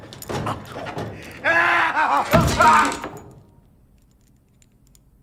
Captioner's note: laughs; floor creaks; screams